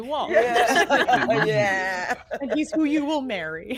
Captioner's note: all laughing